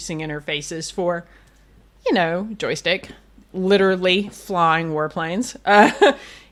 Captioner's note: laughs